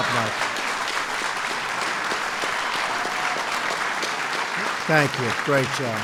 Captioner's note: applause